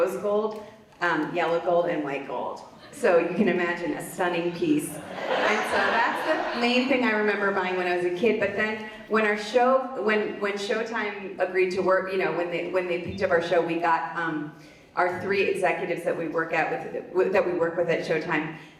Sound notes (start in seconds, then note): 4.7 audience laughs